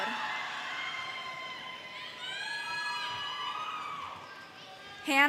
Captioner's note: audience cheers